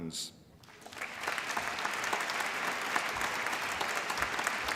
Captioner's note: applause